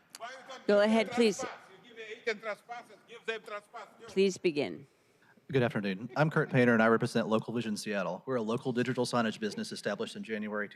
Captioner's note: crowd chanting